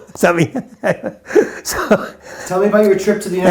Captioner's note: chuckles